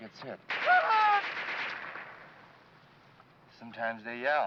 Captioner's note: gun firing; soldier screaming